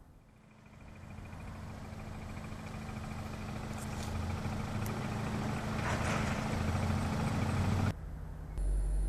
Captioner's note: car coming to a stop